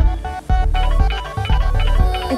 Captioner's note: Phone ringing